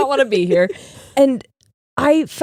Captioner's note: laughing